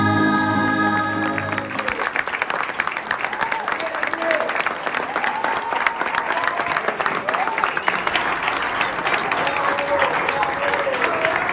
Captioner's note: applause